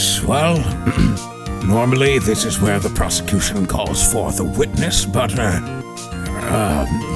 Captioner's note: ahem